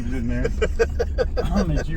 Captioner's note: laughter